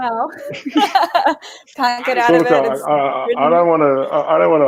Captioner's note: laughing